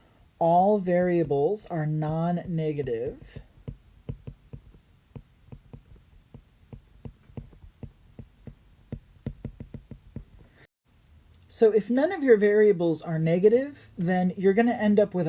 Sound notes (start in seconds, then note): 2.7 writing